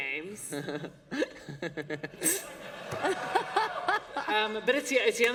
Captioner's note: laughter